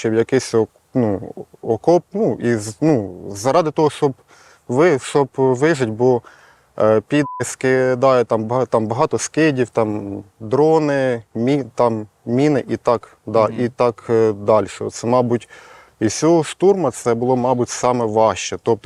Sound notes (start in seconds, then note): none